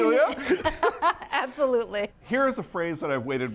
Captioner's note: laughs